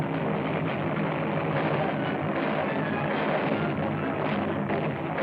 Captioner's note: explosions